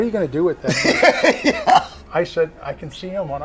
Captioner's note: laughs